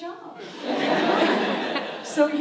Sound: audience laughs

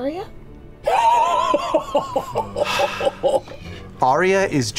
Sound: laughter

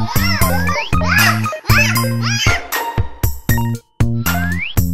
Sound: child laughing; child yelling

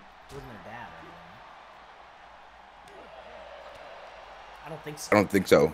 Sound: applause

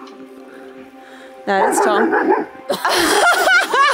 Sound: Vilk barking; laughing

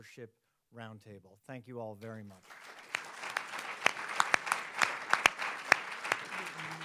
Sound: audience applauding

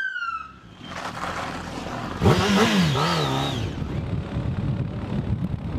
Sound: engine revving; engine puttering

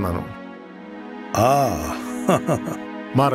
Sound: Viswanath chuckles

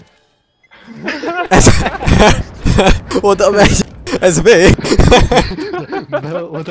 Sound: laughing

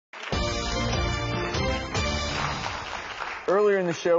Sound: audience applauds; upbeat music

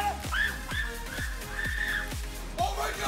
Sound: screams

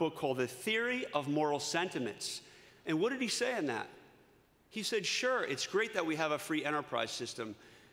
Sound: none

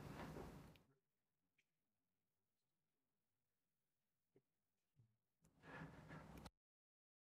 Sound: silence

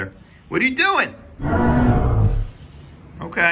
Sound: dinosaur roars

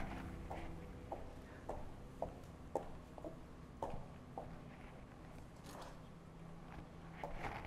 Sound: footsteps

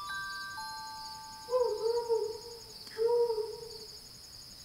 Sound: owl hooting

